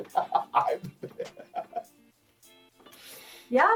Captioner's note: laughs